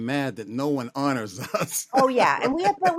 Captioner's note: laughter